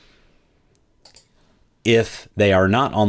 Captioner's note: computer mouse clicking